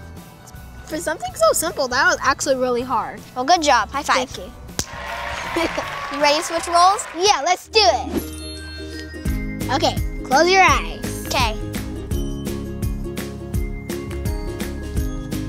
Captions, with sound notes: For something so simple that was actually really hard. - Well good job, high five. - Thank you. (audience cheering and clapping) - You ready to switch roles? - Yeah let's do it. (upbeat music) Okay close your eyes. - Okay. (upbeat music)